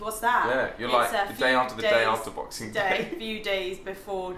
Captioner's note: laughs